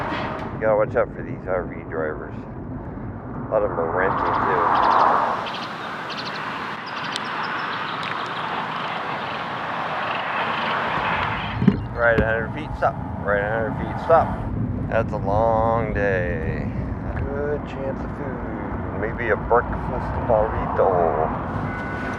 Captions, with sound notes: You got’a watch out for these RV drivers. A lot of them are rentals too. [bird] Ride a 100 feet stop, ride a 100 feet stop. That’s a long day. A good chance for food. Maybe a breakfast burrito?